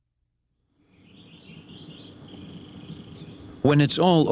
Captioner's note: birds chirping